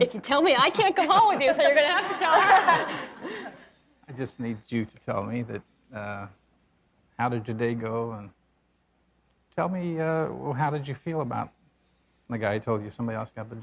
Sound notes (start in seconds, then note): 4.1 laughs